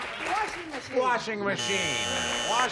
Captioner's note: buzzer